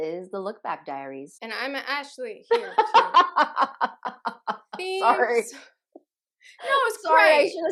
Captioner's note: laughter